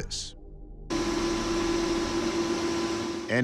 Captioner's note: buzzing